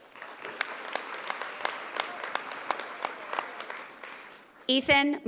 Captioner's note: audience applauding